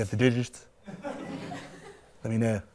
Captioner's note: laughter